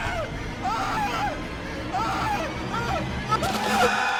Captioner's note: screams